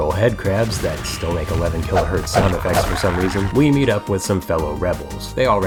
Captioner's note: headcrab screeches in bitcrush